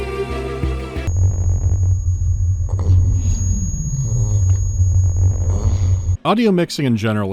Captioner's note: resonant buzzing and distorted, disoriented gasping